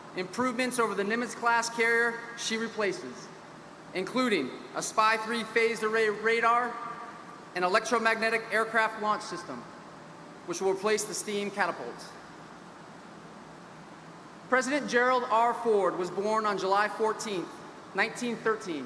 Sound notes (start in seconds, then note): none